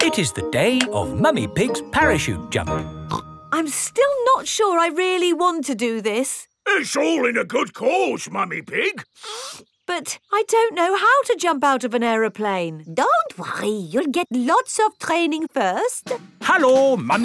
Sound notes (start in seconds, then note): 0.0 clanking; 9.1 sniffs